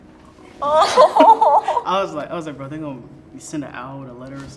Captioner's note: laughing